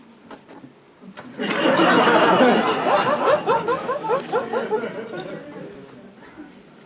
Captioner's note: laughter